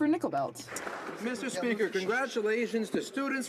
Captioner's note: some Applause